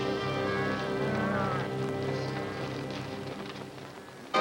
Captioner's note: gentle music; cows mooing